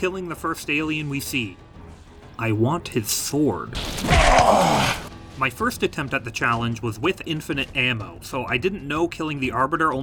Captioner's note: Arbiter Moans